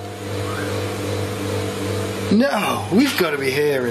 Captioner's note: ghostly whistle